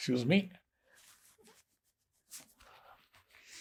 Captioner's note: wiping nose